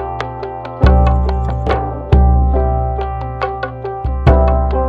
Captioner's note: Car door opens; Song playing over radio